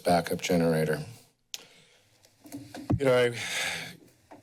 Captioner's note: pause